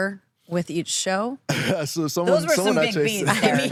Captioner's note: laughs